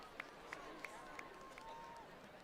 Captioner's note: applause